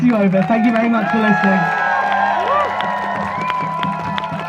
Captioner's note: crowd cheers